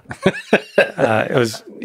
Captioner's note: Lex laughing